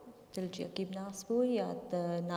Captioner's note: speaking kurdish